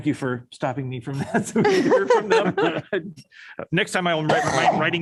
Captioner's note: laughter